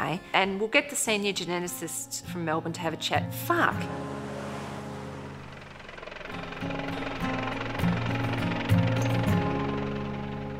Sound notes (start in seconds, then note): 3.8 traffic noise; 6.9 helicopter blades whirring